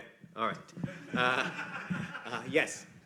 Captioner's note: laughter